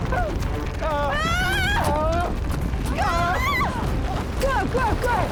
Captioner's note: Larry and Paige screaming